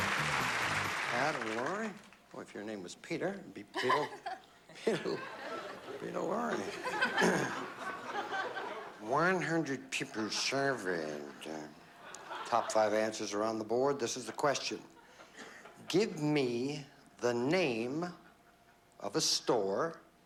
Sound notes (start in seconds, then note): 8.1 in a silly voice